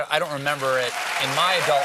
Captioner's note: cheers and applause